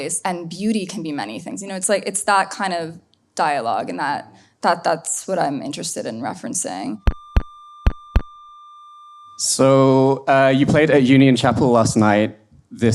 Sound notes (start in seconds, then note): 7.1 feedback whining; 7.8 drum tapping